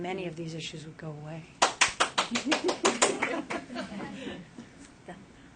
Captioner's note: clapping